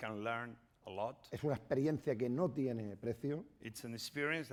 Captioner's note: speaking spanish